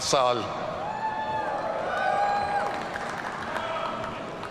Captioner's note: audience cheering